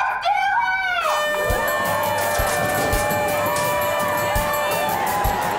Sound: honking

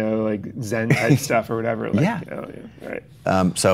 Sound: Chase laughs

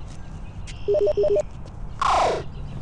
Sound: beeping; teleporting noise

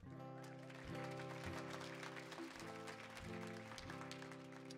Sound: audience clapping

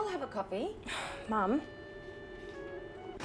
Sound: sighs

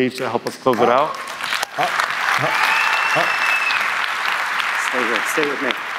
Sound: audience applauding

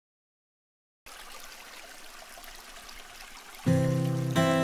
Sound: water trickling; soft uptempo music

